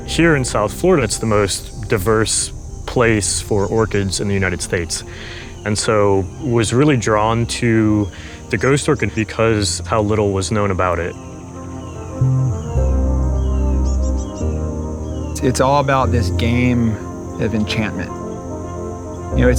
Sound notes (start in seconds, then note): 12.0 birds cawing; 12.0 mysterious music continues